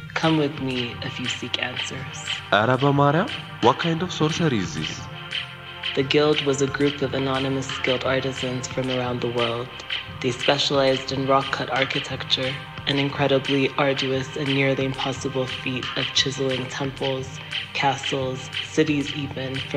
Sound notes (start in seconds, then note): 2.6 man speaking foreign language